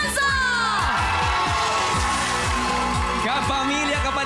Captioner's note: audience cheering